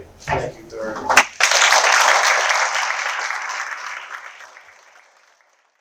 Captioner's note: applause